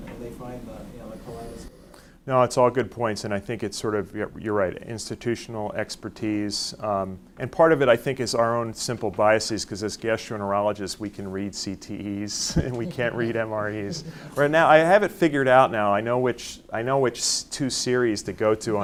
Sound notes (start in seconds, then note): 12.4 laughs; 12.4 audience chuckles